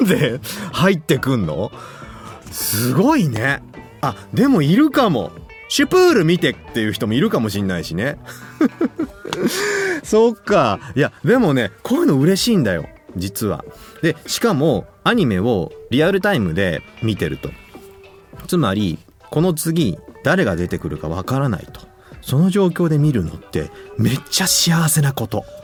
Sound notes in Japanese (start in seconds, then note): 8.2 笑い; 9.2 息をのむ音